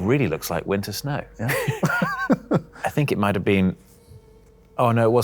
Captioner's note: laughs